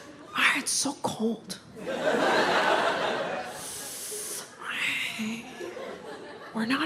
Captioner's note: audience laughs